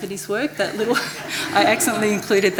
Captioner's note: audience laughs